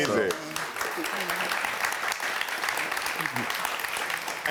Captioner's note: audience clapping